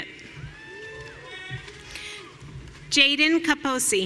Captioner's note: audience cheering